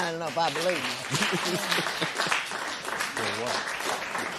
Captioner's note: laughs